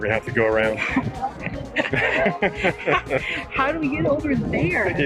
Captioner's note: both laughing